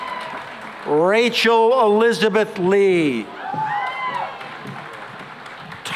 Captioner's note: cheering and applause